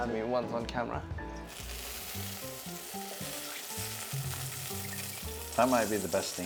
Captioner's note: sizzling sound